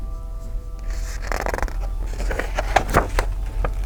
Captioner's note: page turns